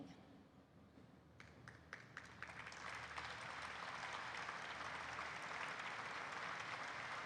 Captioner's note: applause erupts